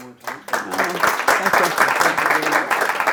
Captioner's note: clapping